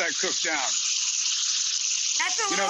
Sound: pan sizzling

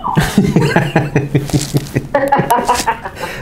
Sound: laughing

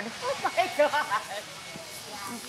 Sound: laughs

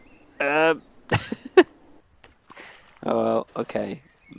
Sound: laughs

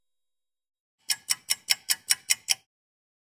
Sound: sound of a ticking clock

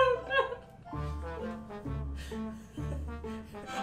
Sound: laughing

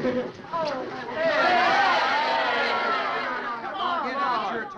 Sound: all chattering

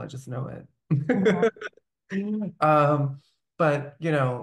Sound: laughing

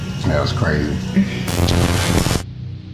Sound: static noise; ominous music

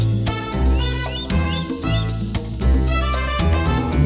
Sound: goshawk calling

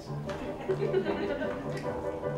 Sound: laughter

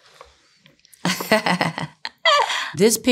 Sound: laughs

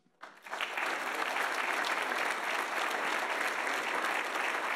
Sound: audience applauding

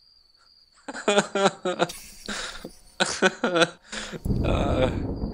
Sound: more pitiful moaning

